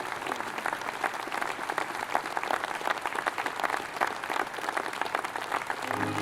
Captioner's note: applause